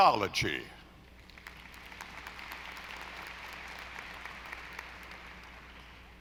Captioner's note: audience applauding